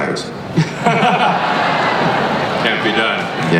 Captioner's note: laughter